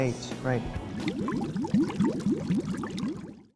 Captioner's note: water bubbling